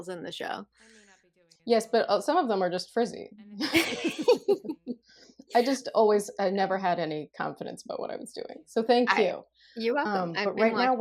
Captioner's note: laughter